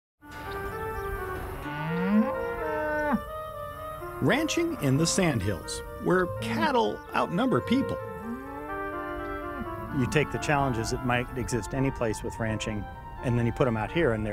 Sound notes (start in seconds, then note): 0.3 calm orchestral music; 1.6 cow moos